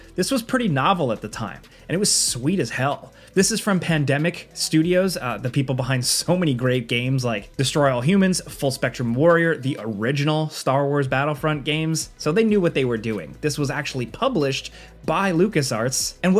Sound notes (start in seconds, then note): none